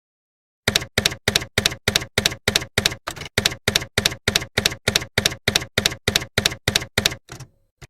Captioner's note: typewriter keys clacking